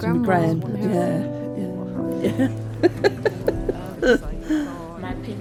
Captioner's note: soft laughter